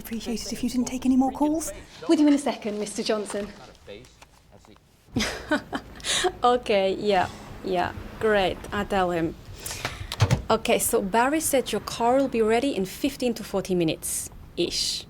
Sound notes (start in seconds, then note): 5.1 chuckles